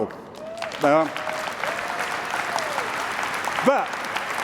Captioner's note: applause